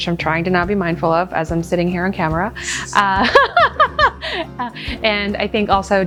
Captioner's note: laughs